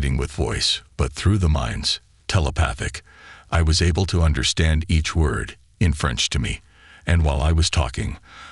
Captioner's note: in French to me